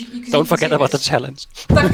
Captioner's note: laughs